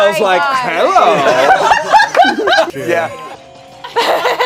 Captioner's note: group laughs